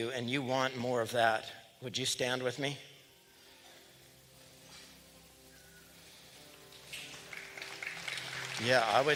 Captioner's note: applause